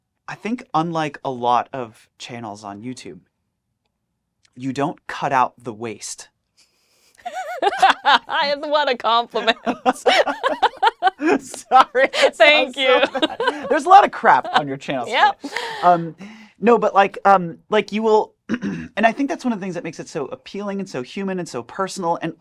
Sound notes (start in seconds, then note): 9.2 both laugh